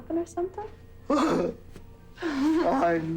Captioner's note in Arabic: يضحك